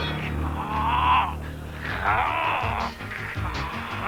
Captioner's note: Shiro groans